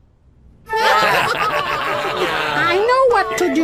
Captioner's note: all laughing